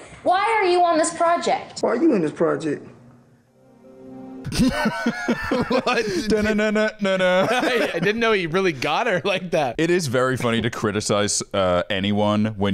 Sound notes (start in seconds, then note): 3.4 suspenseful music; 4.4 laughs